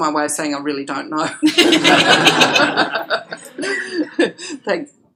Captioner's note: laughter